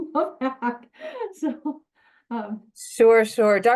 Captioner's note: laughs